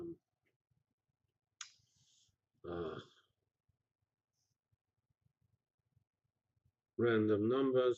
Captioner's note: pause